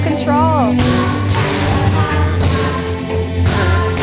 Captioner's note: shoes tapping